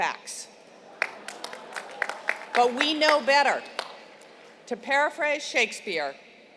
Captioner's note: applause